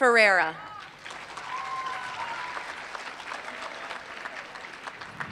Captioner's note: applause